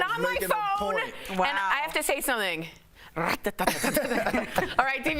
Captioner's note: laughter